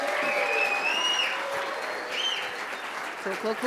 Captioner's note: cheers and applause